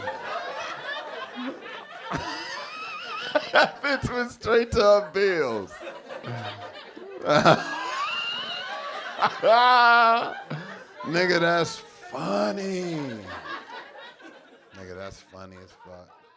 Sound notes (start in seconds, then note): 0.2 audience laughing; 2.5 laughing; 7.4 cackling